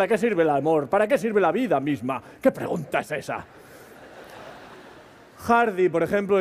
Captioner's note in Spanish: Risas